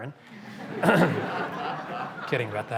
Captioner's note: laughter